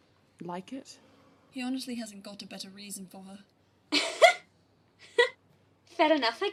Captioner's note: she laughs